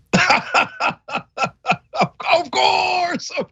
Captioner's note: laugh